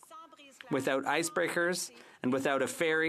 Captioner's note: speaking French